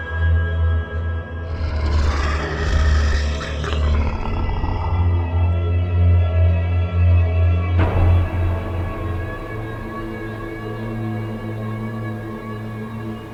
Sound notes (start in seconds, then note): 2.0 Huram exhales heavily; 7.7 suspenseful music